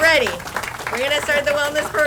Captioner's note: audience applauds